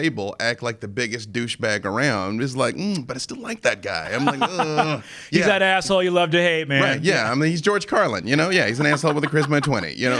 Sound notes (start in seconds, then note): 4.7 groans